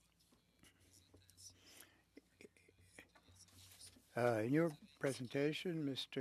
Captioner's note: speaking French